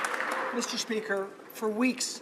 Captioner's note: some Applause